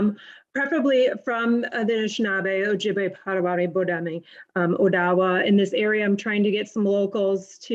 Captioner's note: speaking foreign language